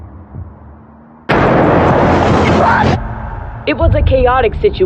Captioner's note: explplososion n